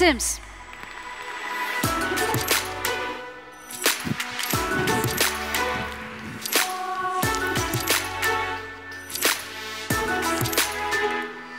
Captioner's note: upbeat music; audience applauding